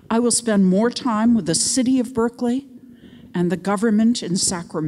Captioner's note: none